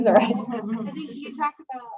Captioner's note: laughter